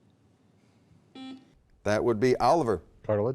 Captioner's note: beep